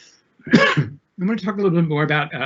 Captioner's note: coughs